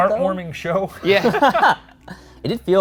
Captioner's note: laughing